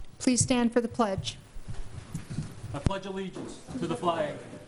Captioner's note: none